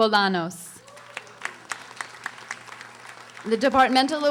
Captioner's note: audience applauding